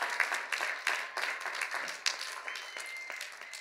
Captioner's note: cheers and applause